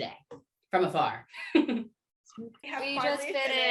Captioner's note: laughter